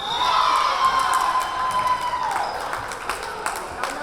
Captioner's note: whistle blowing; cheering; clapping